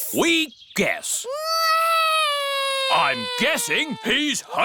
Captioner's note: alexander wails